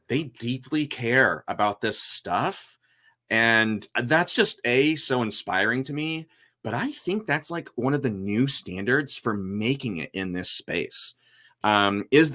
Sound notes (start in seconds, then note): none